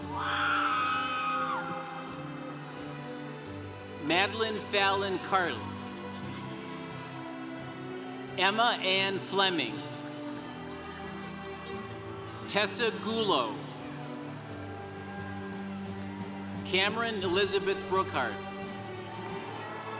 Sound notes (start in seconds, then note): 0.0 congregation cheering; 10.3 congregation applauding; 19.8 congregation cheering